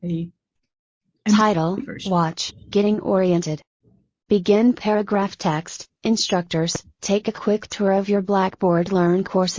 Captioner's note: computer voice